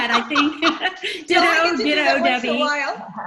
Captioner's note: laughter